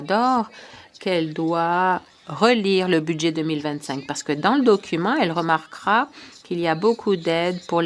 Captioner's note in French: voix de l'interprète